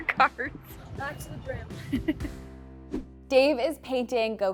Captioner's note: laughs